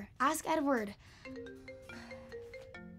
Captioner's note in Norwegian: telefonen ringer